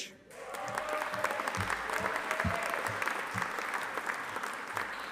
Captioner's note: audience applauding